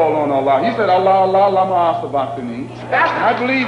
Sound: speaks Arabic

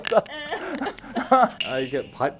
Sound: the staff is also laughing

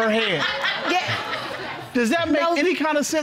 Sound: audience laughing

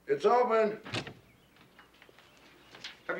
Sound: knock knock

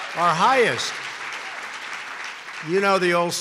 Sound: applause

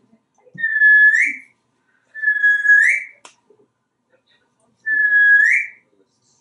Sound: whistling

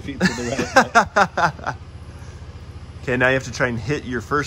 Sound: laughs

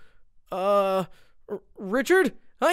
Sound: concerned groans

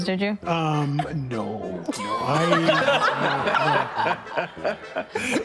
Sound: attendees laughing

